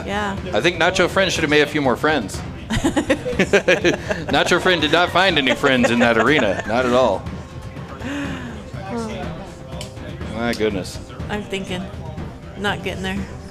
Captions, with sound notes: I think nacho friend should have made a few more friends. (laughing) Nacho friend did not find any friends in that arena. Not at all. My goodness. I'm thinking, not getting there.